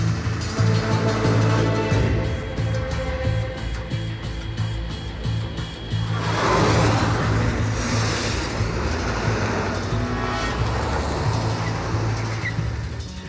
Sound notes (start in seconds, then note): 5.8 jets passing overhead